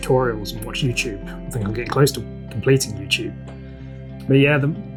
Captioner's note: joking